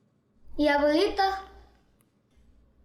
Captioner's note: Spanish